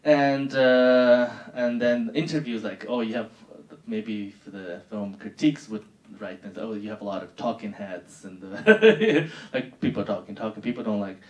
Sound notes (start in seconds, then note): 8.6 laughing